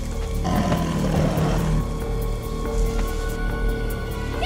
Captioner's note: Growling Continues